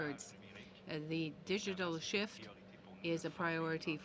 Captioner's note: speaking in french